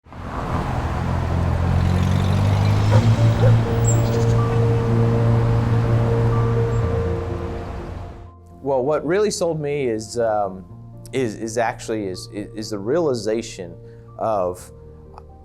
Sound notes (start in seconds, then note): 0.9 truck passing, dog barking; 4.9 bird chirping, street noise